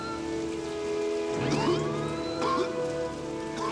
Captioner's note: coughing